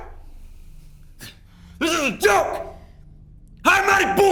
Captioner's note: scoffs